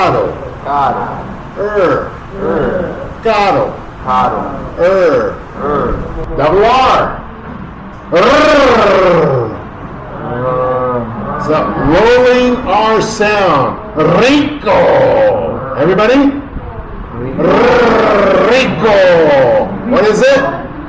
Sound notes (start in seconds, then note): 7.6 rolling tongue sound